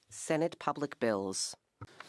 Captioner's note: speaking French